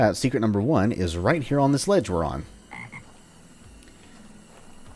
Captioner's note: ribbit